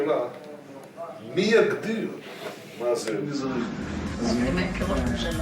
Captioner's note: Hebrew spoken audio